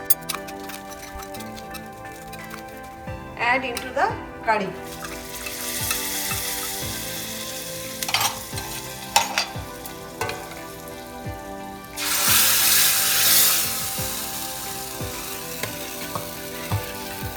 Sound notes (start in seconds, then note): 0.2 gentle music; 5.2 gentle music; 6.0 food sizzles; 8.6 gentle music; 12.0 food sizzles; 14.5 gentle music